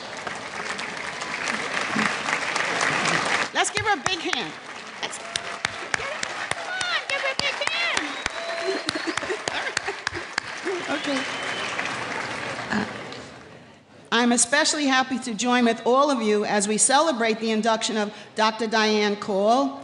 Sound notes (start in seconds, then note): 0.1 applause; 5.4 clapping; 12.1 applause